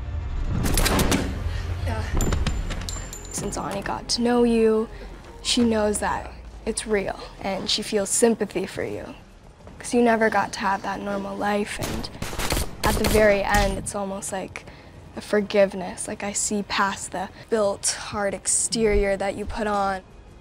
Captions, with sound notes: (guns firing) Since Ani got to know you, she knows that it's real, and she feels sympathy for you because you never got to have that normal life. (shots firing) At the very end, it's almost like a forgiveness, like I see past the built hard exterior that you put on.